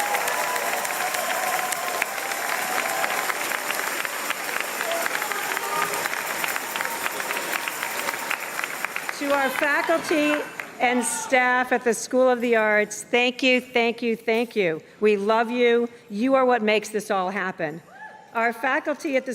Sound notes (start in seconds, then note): 0.0 applause and cheers